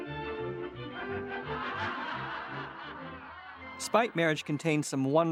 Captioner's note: audience laughs